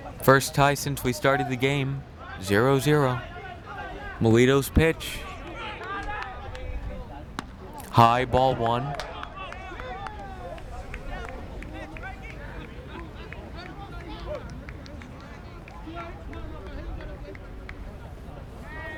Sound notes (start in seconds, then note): 12.1 fans talking in foreign language